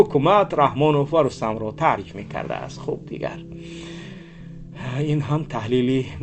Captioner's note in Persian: صدای بند آمدن نفس